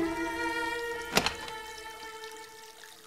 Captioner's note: door opens